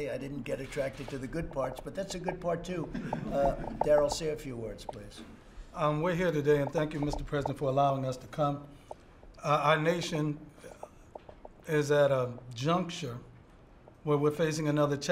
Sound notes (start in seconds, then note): 2.9 laughter